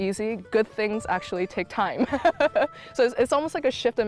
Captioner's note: laughs